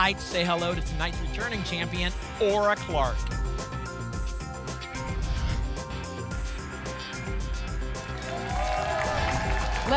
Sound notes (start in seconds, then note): 4.9 whoosh; 8.0 applause and cheering